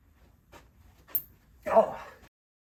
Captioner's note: in wii announcer voice